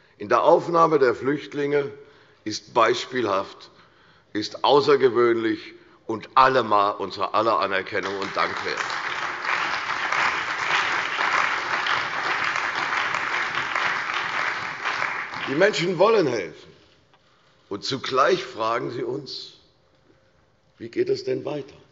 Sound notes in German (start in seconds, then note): 11.3 Allgemeiner Beifall